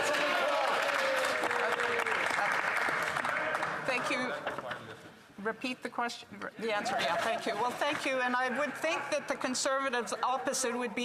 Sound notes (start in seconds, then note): 3.5 applause